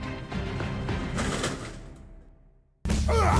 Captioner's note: crash